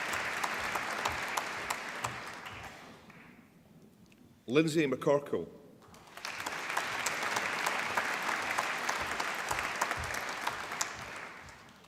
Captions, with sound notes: Linzi McCorkell (APPLAUSE)